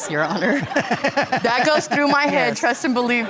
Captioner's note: all laughing